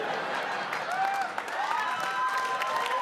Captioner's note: audience laughs; audience applauds